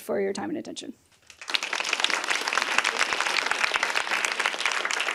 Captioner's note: applause